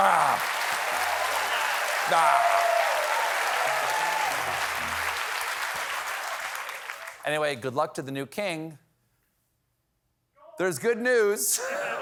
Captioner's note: applause